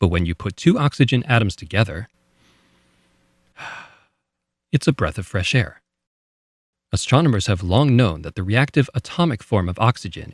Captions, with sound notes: But when you put two oxygen atoms together - (breath in) aaaah (breath out) - it's a breath of fresh air. Astronomers have long known that the reactive atomic form